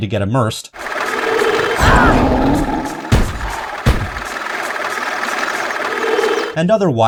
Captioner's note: lawnmower roars, explodes